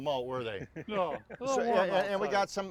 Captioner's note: chuckling